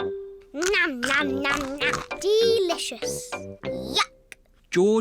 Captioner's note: crunches